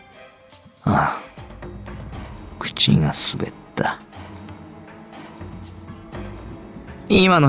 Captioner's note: sigh